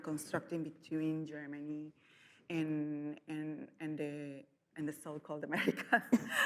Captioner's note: laughs